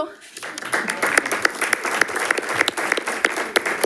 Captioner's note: audience applauds